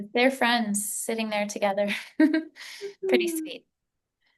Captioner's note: chuckles